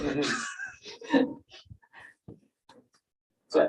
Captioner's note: laughter